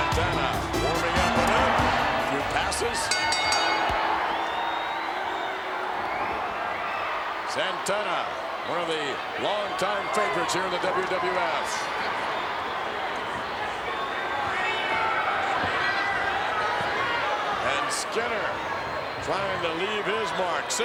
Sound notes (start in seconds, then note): 3.5 bell rings; 5.5 crowd murmuring; 12.2 crowd murmuring